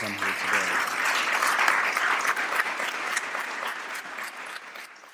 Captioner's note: applause